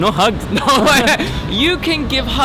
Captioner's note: laughing